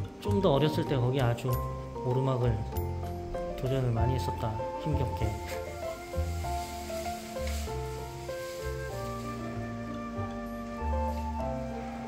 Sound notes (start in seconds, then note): 5.2 squishy squishy